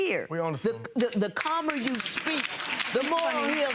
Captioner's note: audience applause